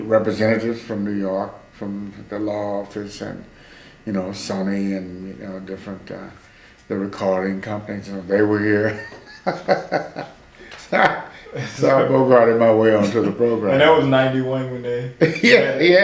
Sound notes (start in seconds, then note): 8.8 laughs